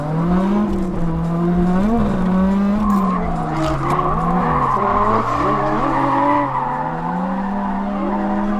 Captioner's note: engine roaring and tires squealing